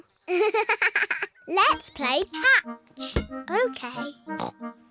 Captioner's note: giggles